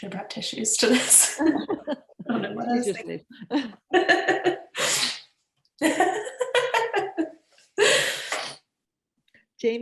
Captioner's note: laughter; laughs